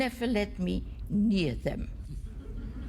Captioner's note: laughter